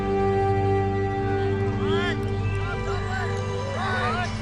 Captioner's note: soldiers chattering